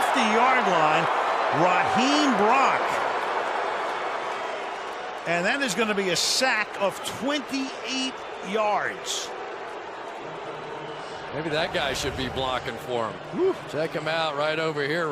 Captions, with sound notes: at the 50-yard line. Raheem Brock. [booing] And that is going to be a sack of 28 yards. Maybe that guy should be blocking for him. Woo.